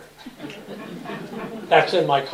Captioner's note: laughter